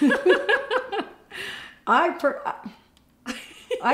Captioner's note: laughter